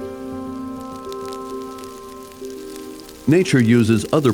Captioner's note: fire crackling